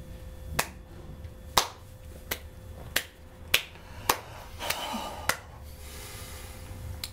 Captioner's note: slow clapping